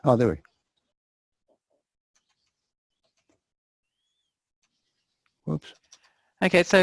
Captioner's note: pause